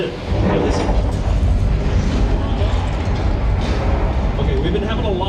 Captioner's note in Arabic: صوت هدير المبنى